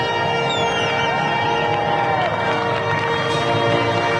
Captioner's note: crowd cheering